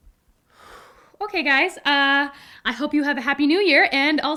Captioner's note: exhales